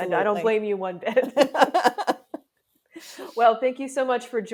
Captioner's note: both laugh